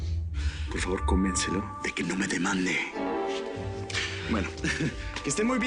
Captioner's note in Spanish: Susurra